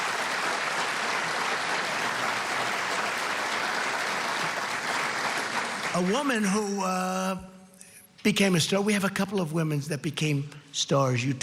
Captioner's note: applause